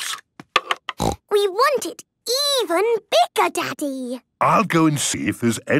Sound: snorting

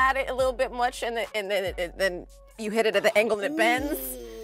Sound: stuttering

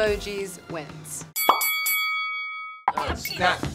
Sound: boxing bell rings

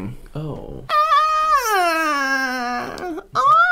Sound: more Real Sceams

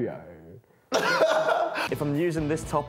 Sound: laughs

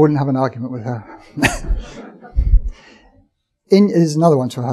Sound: audience chuckling

